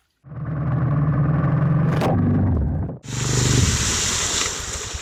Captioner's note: motorcycle engine revving